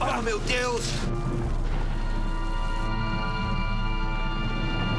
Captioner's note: yells